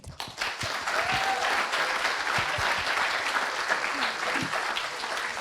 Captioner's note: applause